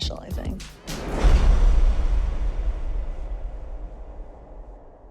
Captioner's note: rumbling